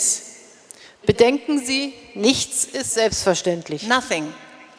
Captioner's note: speaking in German